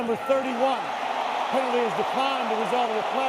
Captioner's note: cheering